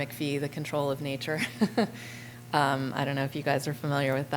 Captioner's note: laughter